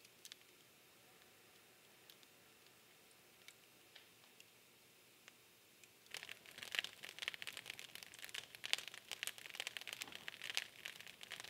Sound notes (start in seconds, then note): 5.7 fire crackling